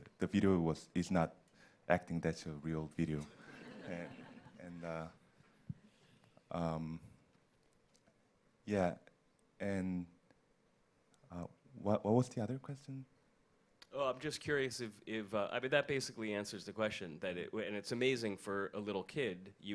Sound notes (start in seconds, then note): 3.3 audience laughs